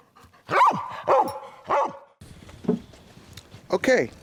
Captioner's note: barking